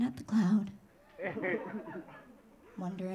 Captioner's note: audience laughing